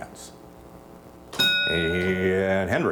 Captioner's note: bell dings